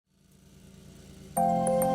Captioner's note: lawnmower running